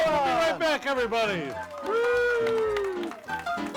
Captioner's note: audience applauds; upbeat music